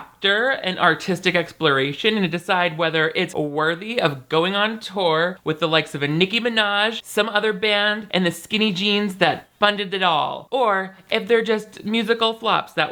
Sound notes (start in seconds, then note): none